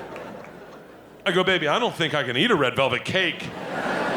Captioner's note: audience laughing